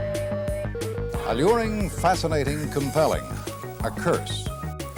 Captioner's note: digital tones and beeps